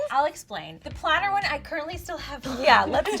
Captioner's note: laughs